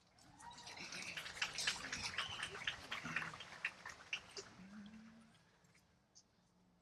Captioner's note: applause